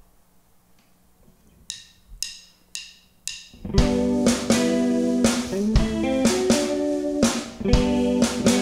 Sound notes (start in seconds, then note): 1.6 drum sticks clinking; 3.6 groovy rock music